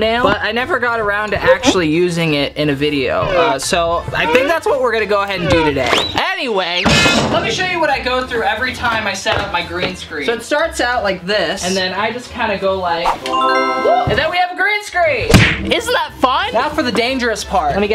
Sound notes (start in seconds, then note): 6.8 banging